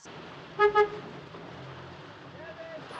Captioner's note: horn honking